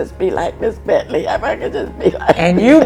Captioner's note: laughs